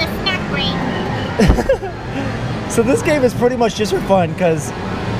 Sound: laughs

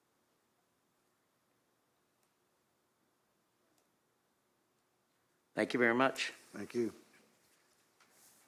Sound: moment of silence

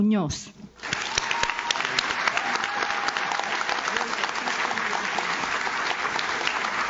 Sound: audience claps; audience cheers

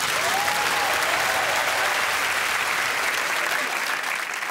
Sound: applause

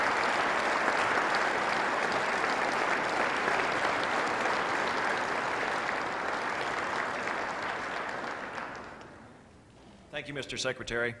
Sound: applause

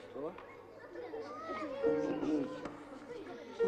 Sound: general laughter

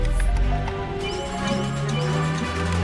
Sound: high pitched beeping

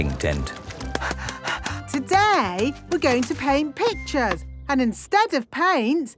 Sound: panting

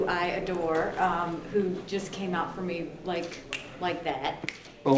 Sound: snaps fingers

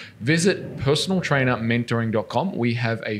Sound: none

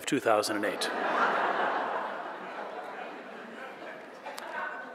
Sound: audience laughing

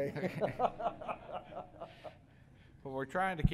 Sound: laughter

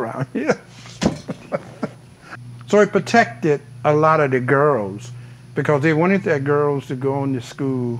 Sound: lauhing

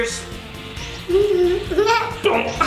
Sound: giggles

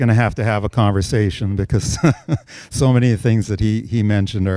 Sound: chuckles

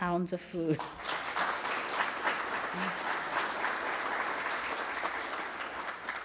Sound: applause

